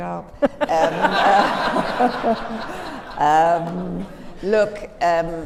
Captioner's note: laughter